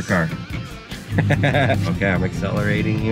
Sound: person laughing

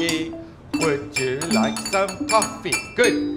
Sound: children playing xylophones; glasses clinking

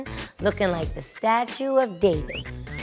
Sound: whistling

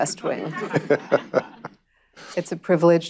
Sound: laughter

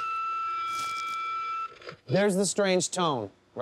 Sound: high-pitched tone

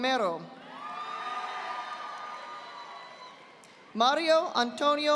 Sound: audience applauding

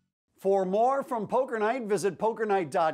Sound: voiceover

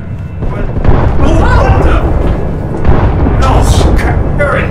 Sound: explosions booming

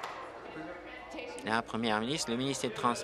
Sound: applause

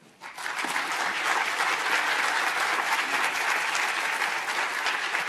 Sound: audience applauding

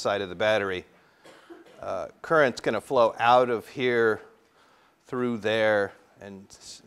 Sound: cough

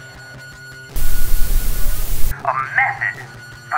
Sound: static noise

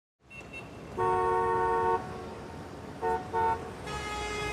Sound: cars honking

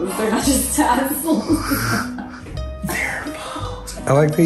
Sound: laughs

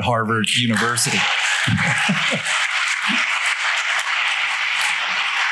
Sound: applause

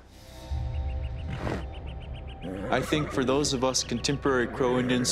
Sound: horse grunts

